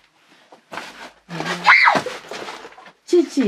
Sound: screams

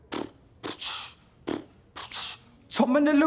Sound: beatboxing

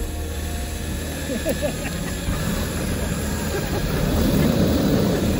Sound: laughters

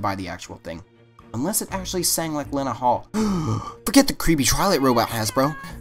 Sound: gasp

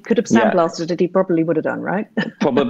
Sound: she laughs

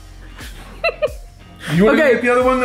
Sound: laughing

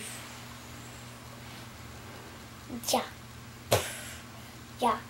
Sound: child vocalizing impacts

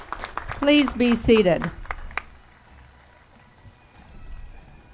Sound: applause

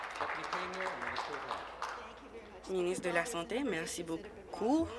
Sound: applause

